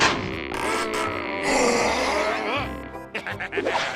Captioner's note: growling